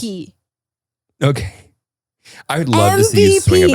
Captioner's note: laughs